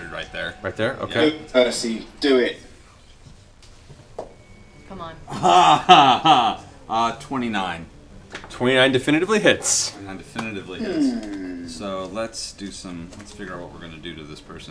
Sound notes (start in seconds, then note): 5.3 laughs